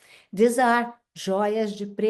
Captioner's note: speaks Portuguese